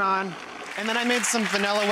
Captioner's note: clapping